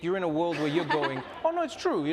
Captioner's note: group laughing